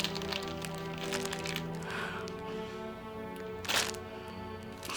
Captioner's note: plastic rustling